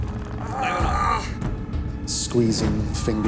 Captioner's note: groans